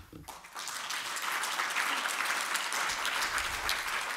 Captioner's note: audience applause